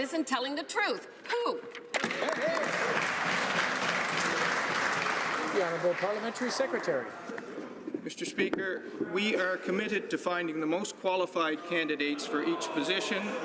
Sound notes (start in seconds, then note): 7.2 some Applause